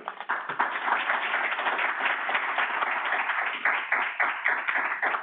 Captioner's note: audience applauding